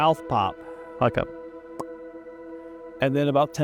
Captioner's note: mouth pops